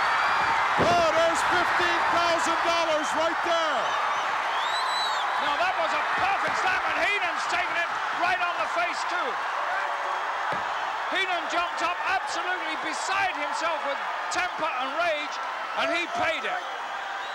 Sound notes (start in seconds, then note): 3.0 audience cheering